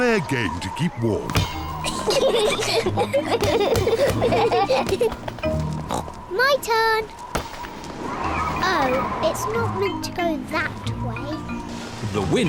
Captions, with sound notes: Let's play a game to keep warm. (GIGGLE) My turn! Oh, it's not meant to go that way.